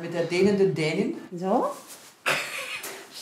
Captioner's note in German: Lachen